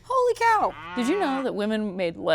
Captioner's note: cow moos